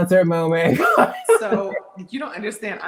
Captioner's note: laugh